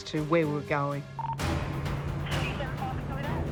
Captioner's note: police radio crackling